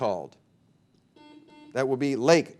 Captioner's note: buzzer beeping